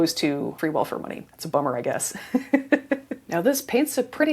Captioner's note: laughs